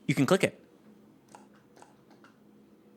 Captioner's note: clicking noises